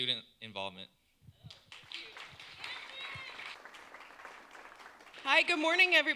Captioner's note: applause